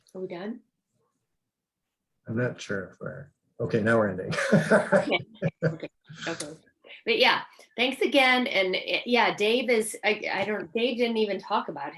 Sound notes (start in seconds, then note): 4.2 laughs